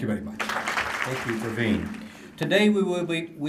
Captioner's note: applause